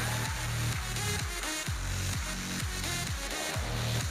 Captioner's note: audience applauding